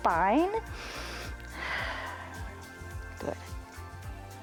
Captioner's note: inhales and exhales